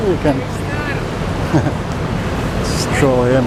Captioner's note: chuckle